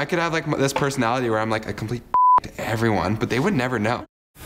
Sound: beeb

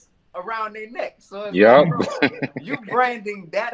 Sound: laughs

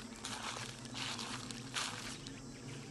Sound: leaves rustle

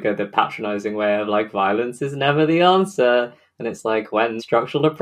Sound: sing-song

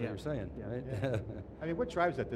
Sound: laughs

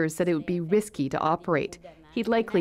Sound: speaking French

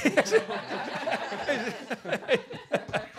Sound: laughter

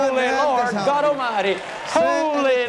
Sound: applause

